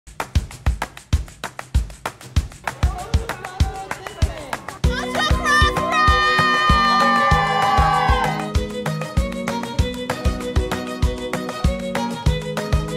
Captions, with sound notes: (upbeat music) Welcome, freshman! (cheers) (upbeat music continues)